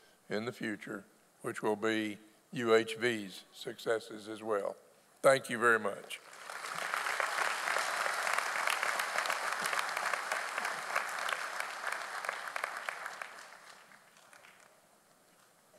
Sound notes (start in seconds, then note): 7.2 audience applauding